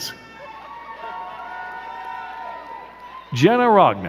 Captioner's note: crowd cheering and clapping